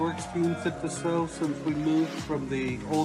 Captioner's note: audience cheers